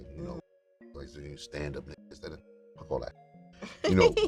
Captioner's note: muted